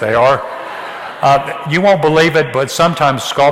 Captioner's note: audience laughs